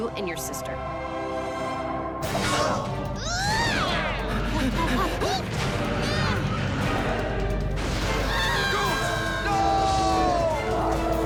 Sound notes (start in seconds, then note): 2.4 grunts; 4.3 both panting; 6.4 thunder crashes; 10.0 groans